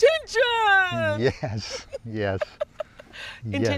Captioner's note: laughs